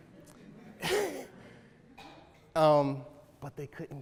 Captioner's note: laughs